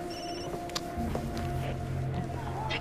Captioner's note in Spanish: Timbre de teléfono